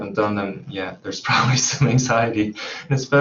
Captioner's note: chuckles